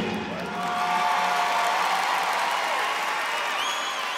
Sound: congregation cheering

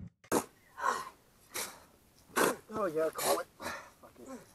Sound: shoveling sounds, grunting

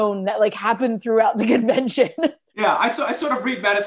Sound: laughter

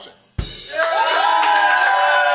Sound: audience cheering

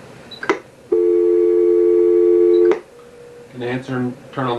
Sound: dial tone

